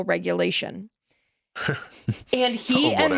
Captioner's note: chuckles